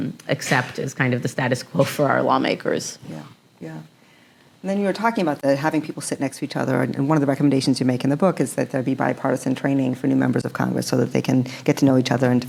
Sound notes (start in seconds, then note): none